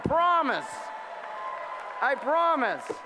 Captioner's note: applause